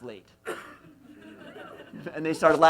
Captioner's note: laughs